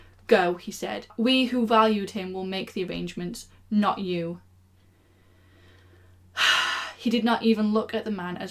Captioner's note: sigh